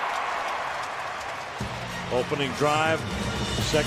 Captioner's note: cheering